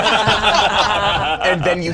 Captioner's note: cast laughing